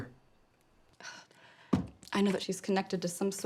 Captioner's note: sighs